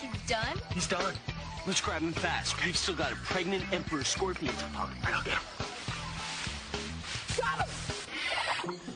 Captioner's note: whispers